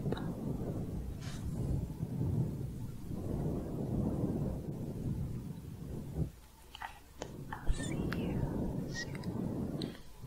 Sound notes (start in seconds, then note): 0.0 windy sounds